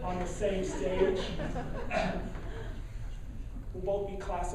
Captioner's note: laughing